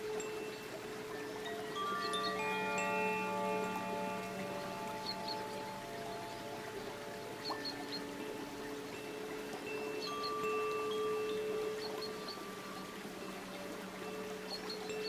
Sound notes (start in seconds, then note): 7.4 bells lightly chiming; 7.4 water babbling